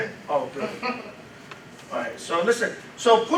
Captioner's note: laughs